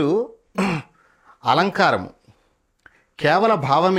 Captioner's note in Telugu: గొంతు సవరించుకోవడం